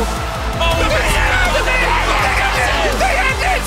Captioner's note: screaming